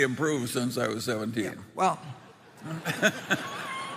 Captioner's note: laughter